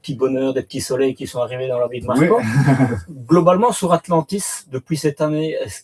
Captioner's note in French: rires